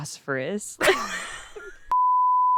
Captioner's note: both laughing